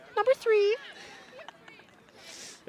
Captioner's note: laughs